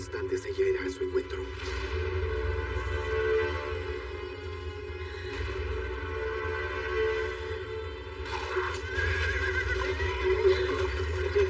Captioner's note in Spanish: Relincha